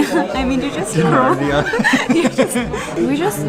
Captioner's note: laughs